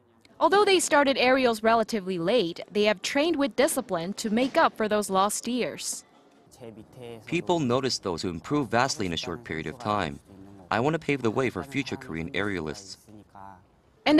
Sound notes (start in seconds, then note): 6.2 Korean